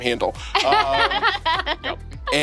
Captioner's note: laughing